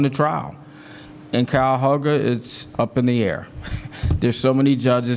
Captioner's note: laugh